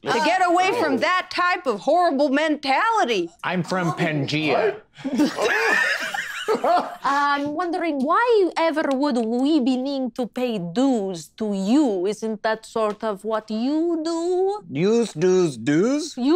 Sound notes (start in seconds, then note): 4.9 group laughing